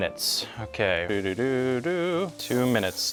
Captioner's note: humming a tune